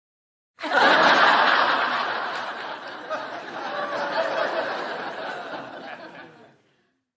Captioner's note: explosion of Laughter